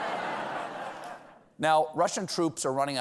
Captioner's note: laughter